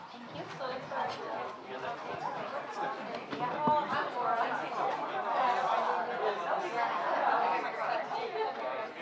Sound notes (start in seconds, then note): 0.0 audience murmuring